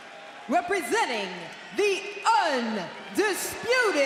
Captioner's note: crowd cheering